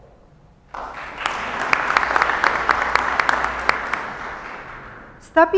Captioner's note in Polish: oklaski